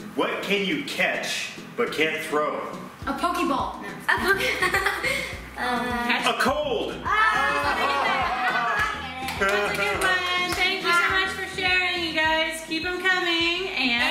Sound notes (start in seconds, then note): 4.1 laughter